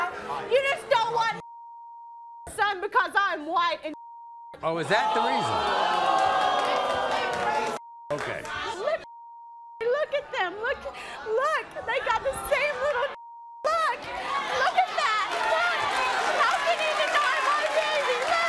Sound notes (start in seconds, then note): 4.8 audience groans